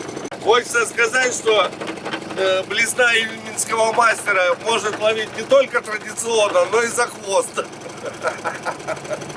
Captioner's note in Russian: смех